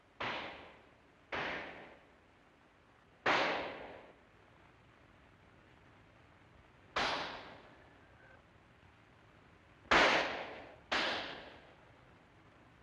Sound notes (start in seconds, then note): 1.3 gunshot; 3.2 gunshot; 6.9 gunshot; 9.9 gunshot